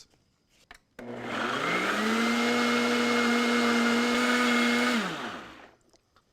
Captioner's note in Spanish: licuadora bate